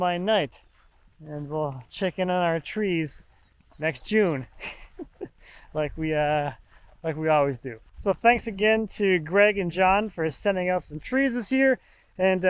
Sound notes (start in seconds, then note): 4.3 laughs